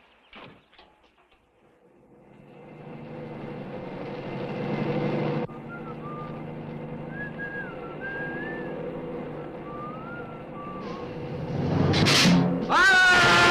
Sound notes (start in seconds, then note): 7.0 Compton whistling softly; 12.0 lizard hissing; 12.6 Compton screaming loudly; 13.2 metal crashes